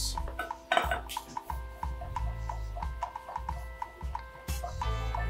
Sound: quiet chopping

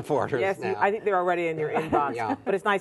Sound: laughter

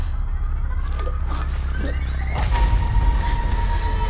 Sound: stangled, gurgling

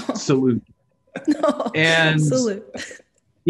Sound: laughing

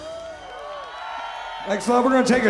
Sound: audience cheering

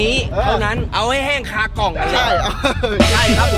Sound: laughs

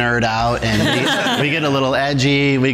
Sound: laughter

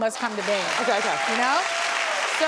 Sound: audience cheers

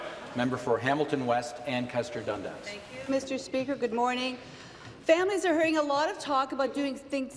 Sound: some Applause

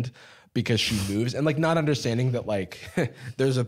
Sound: laughs

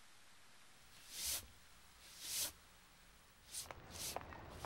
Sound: broom sweeping

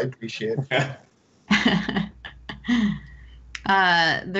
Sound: laughs

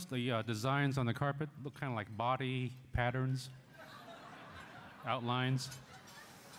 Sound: laughter

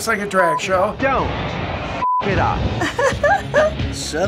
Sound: laughing

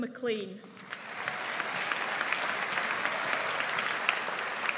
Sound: audience applauds

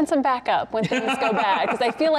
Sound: laughing

